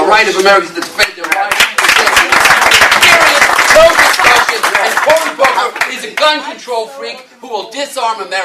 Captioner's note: applause